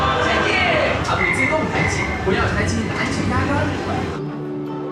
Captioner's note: PA speaking Chinese